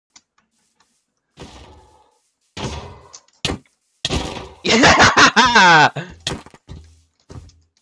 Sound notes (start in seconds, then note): 1.2 iron golem getting hit; 4.1 golem smacking player noise; 4.1 axe crit